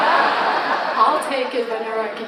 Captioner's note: audience laughs